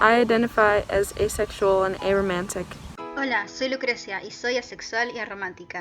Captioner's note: in Spanish